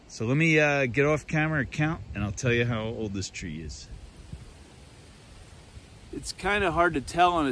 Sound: water rushing

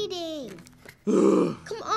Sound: unwanted sad+angry noises

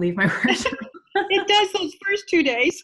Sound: laugh

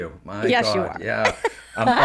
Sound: laughing

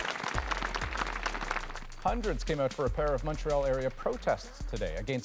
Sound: applause

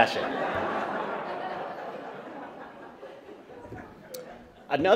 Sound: laughter

